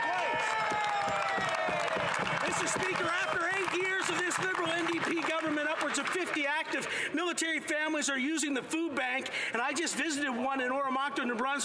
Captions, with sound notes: constituent cans and voting non-confidence in this government. [Some Applause] Mr. Speaker, after 8 years of this Liberal-NDP government upwards of 50 active military